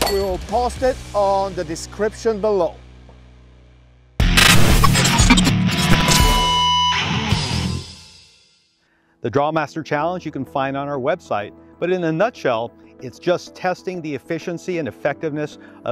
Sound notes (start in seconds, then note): 4.1 rock music; 6.4 graphic beeping